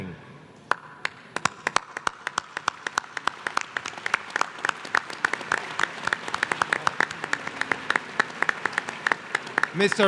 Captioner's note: applause